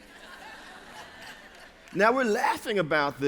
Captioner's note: laughter